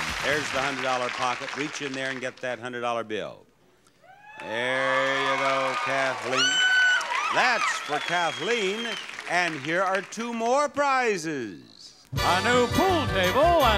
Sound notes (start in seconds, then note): 4.0 audience cheering; 6.3 squealing